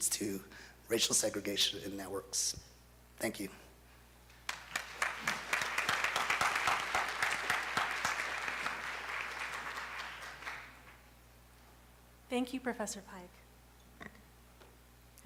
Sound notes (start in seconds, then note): 4.4 applause